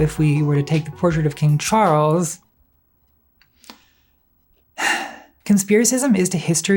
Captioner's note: sigh